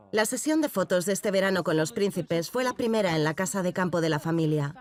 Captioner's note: voiceover